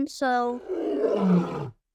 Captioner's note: roaring